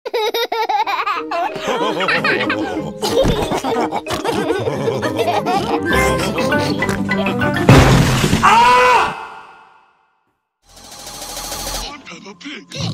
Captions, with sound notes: *laughs* *SLAMS* AAAAHHHHHHH!